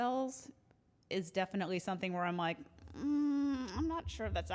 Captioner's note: hums